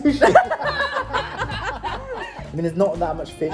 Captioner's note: all laugh